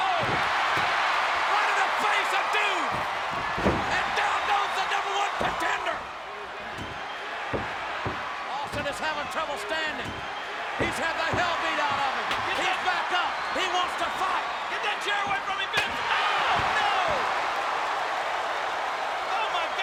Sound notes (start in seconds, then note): 0.4 audience cheers; 15.2 chair thuds; 16.8 audience cheers